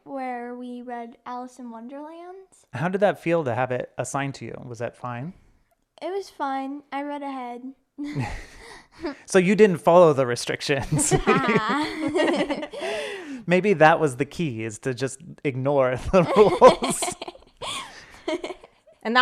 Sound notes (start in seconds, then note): 8.1 chuckling; 10.8 laughing; 16.0 laughing